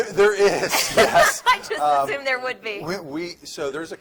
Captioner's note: laughs